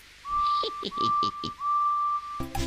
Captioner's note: Edward chuckles